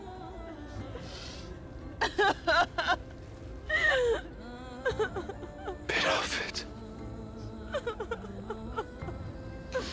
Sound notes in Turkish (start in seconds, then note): 0.6 Ağlama sesleri